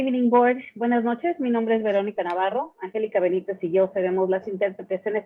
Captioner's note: speaking in Spanish